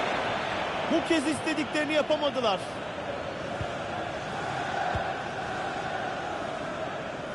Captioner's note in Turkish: coşkulu tezahürat